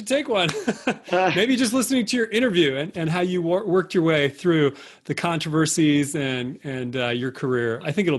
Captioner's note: laughter